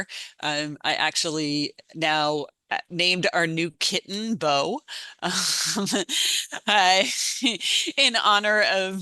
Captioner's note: chuckles